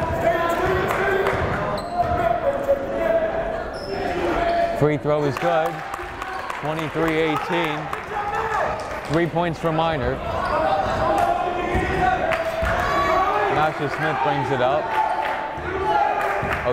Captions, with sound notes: (yelling) Free throw is good. (clapping) 23, 18 Three points for Miner. (yelling) Nasha Smith brings it up, Ojugbele on him.